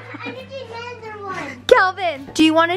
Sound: laughter

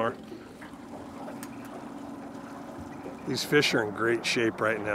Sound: boat engine idling

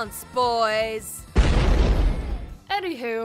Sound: loud explosion

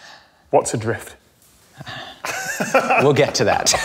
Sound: laughs

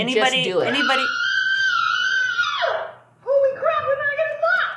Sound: screams

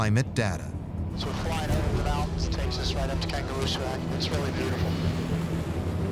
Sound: radio

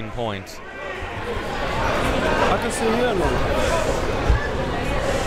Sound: crowd members talking

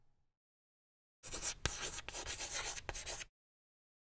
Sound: chalk scratching

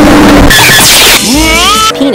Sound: blam

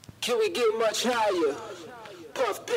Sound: echoing

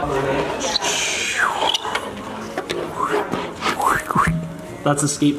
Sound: dad mimicking fingerboard whooshing

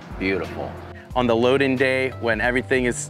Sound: pat

